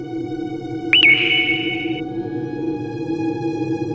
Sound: tweet sound

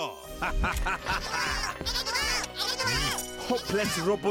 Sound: evil laughter; chattering

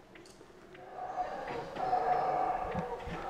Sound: monkey roar

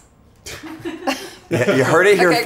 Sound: all laugh

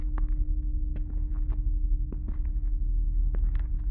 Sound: none

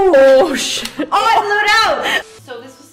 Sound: both screaming

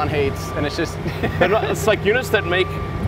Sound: laughs

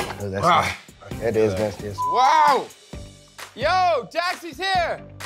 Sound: beep

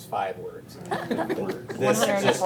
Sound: all laughing

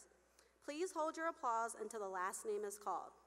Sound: none

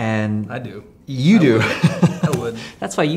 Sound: laughing

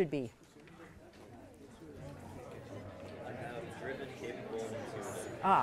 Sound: students chattering

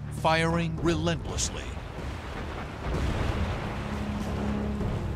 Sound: explosions

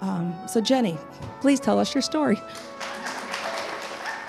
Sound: cheers and applause

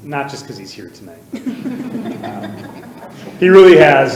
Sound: audience laughing

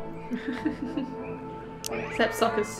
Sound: laughs

